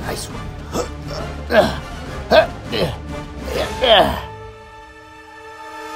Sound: struggle Sounds

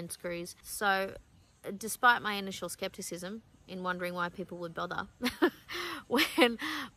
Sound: laughs wryly

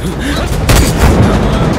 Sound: gunshot

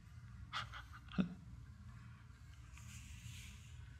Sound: Eckhart laughing

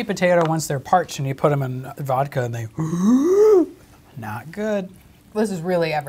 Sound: inhale

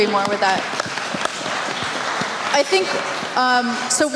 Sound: applause

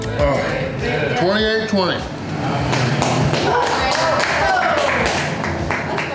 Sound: crowd clapping and cheering

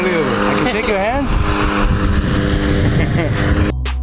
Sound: laughing; cool vibe music

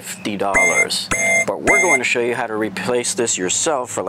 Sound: alarming buzz

